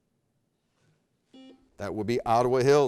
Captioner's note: buzzer beeping